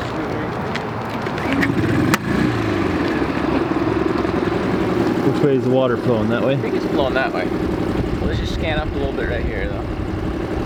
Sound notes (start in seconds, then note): 1.8 engine rumbling; 10.4 boat engine chugging